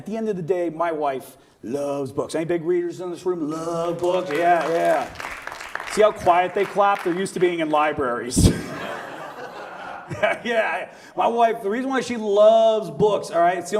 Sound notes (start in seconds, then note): 3.7 audience applauds; 8.4 audience laughs